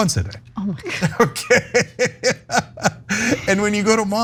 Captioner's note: laugh